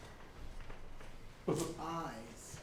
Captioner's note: laughs